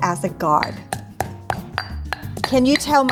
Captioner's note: banging mortar